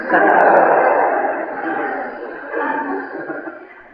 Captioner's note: laughter